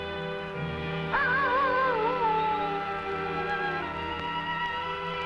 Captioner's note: animal howling